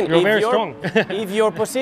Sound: laughs

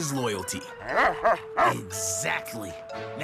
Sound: barking

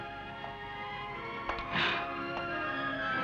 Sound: sighs

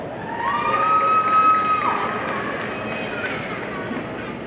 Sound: audience cheering

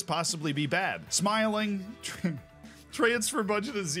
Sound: chuckles

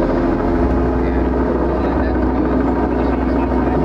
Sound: crew murmurs

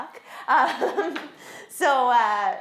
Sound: chuckles

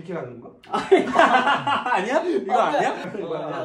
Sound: hahahahahahahahahahahahahahahahahahahahahahahahahahahahahahahahaha?!

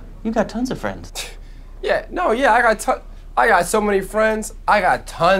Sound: scoffs

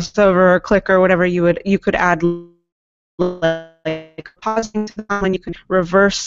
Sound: audio blurps

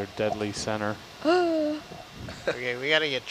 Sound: woman gasping

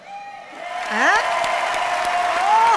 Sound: cheer and applause

